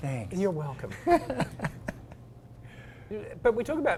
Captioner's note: laugh